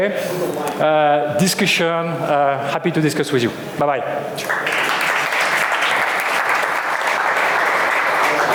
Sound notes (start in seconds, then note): 4.4 applause